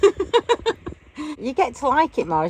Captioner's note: laughing